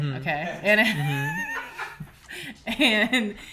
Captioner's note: laughter